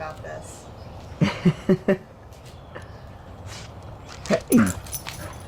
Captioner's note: chuckles